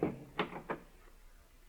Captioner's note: knocking